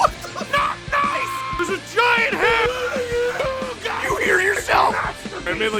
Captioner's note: screaming; Harry potter screaming